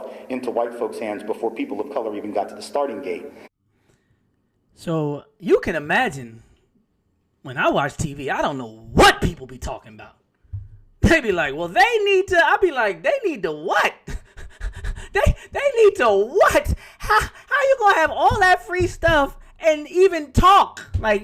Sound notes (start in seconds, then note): 14.0 laughing